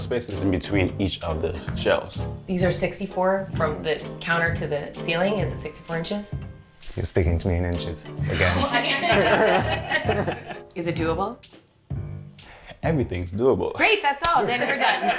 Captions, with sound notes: - How much space is in between each of the shelves? - These are 64, from the counter to the ceiling, is it 64 inches? - You're speaking to me in inches again. - Well, I can't... (everyone laughs) Is it doable? - Everything's doable. - Great, that's all, then we're done.